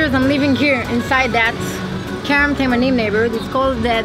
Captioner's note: in foreign language